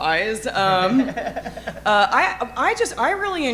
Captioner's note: chuckling